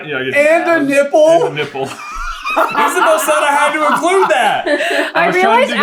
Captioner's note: laughter